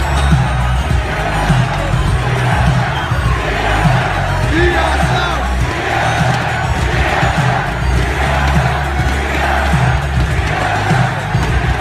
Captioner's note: tsm chanting